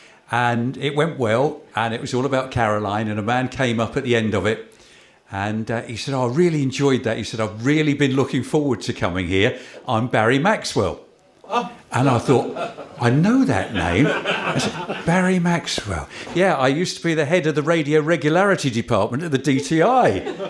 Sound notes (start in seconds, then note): 13.6 laughter